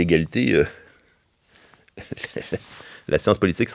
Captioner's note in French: petit rire